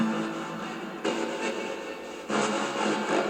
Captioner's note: ghostly Voice